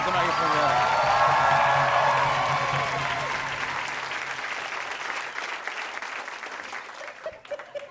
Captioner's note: cheers and applause; laughter